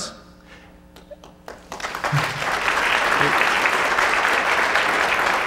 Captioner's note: audience applauding